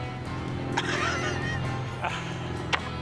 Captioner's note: laughs